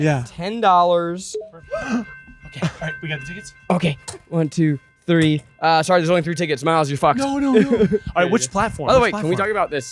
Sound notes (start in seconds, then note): 1.7 gasping